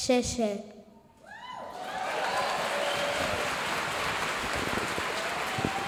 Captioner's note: speaks in foreign language; audience applauding